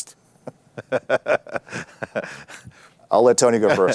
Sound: laughs

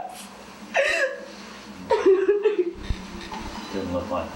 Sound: crying

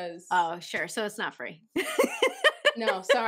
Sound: laughter

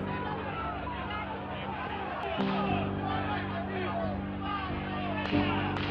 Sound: people yelling

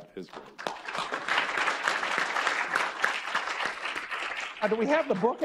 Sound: audience applauds

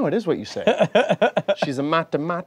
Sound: laughing

